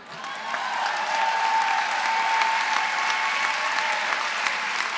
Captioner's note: applause